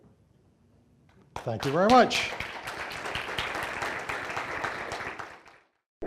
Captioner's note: audience applauds